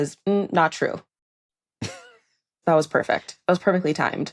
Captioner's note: laughs